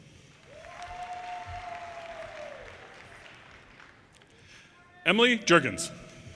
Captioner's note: audience cheers and applause